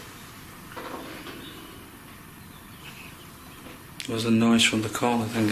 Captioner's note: corner creaking